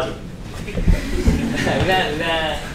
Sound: laughter

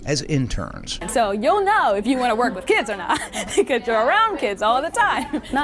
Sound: laughs

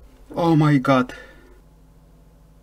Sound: wow, it's russian language

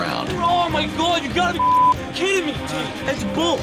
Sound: beep

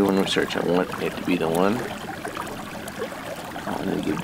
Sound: water bubbling

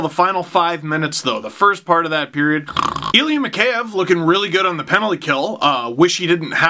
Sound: snore

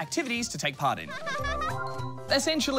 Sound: giggles

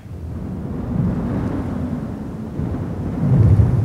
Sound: wind blows

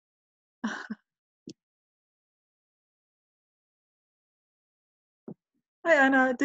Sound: silence

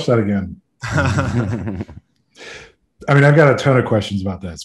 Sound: laughing

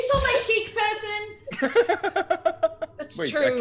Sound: laugh

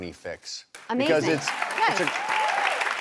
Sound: applauding

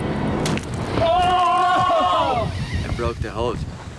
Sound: screams

